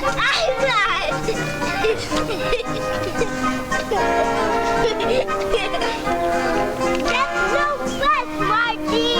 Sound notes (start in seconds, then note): 1.0 both laughing; 2.8 gentle upbeat music; 4.6 both laughing